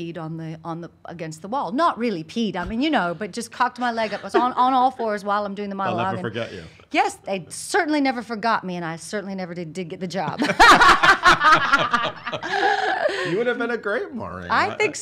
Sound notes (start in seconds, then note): 12.0 laughs